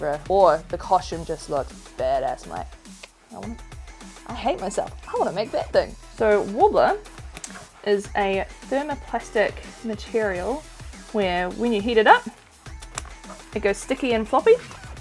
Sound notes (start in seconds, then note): 3.0 clicks tongue